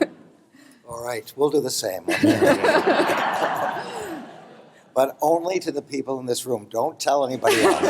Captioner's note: laughter